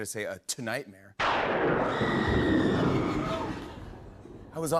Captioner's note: thunder crashes, woman screams